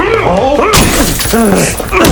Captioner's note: glass breaks; shaky breathing; aggressive grunt